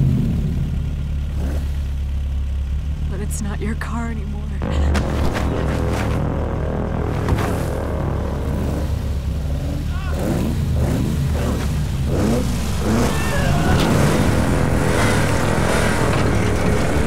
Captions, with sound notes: (car engine starting) But it's not your car anymore. (dramatic music playing) (car revving) (Jason yelling)